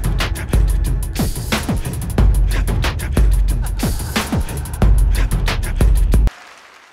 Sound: clap

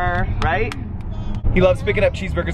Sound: clapping

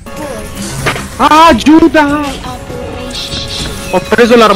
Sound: curses

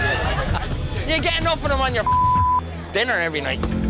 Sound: beep

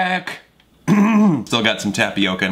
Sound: clears throat

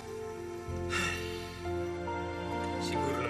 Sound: dad sighs

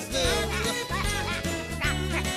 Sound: kids Quacking

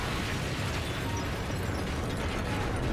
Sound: debris clattering

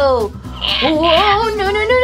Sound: screeches

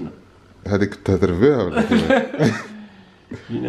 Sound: laughter

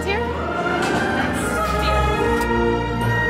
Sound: honk honk

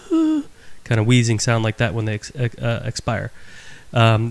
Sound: wheezing sound

